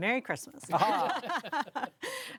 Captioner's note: panelists laughing